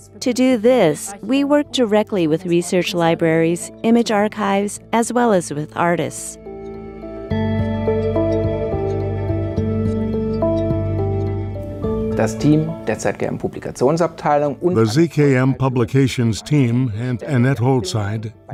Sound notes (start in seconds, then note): 12.2 non-english speech